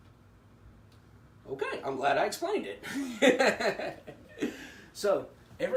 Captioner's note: laughing